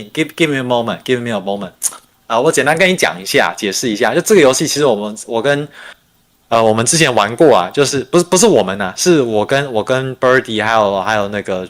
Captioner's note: non-english speech